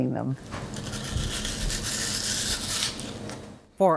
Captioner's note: bites into apple